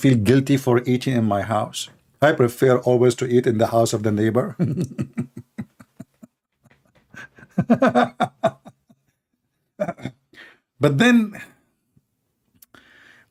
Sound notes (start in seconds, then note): 7.0 Ketawa